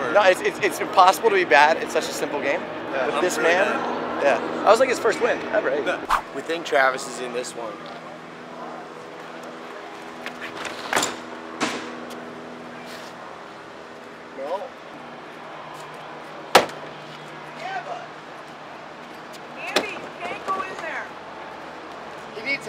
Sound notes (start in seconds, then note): 10.2 bumping on a door; 16.8 knock on a door